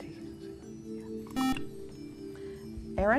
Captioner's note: beep